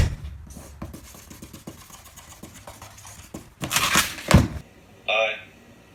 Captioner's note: marker scraping; paper tearing